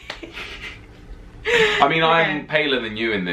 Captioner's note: laughing